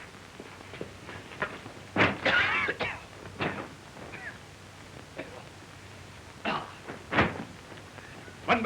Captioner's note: coughing